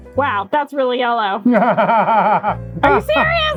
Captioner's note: laughing